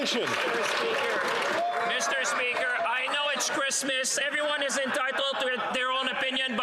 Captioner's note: some Applause